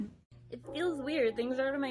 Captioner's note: giggles